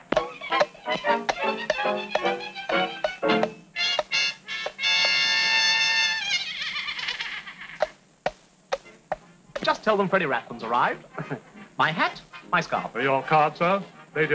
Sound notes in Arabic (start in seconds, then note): 0.0 ضربات خيول; 0.1 موسيقى أوركسترالية حماسية; 11.0 يضحك